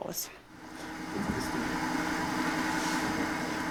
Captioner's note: continuous whirring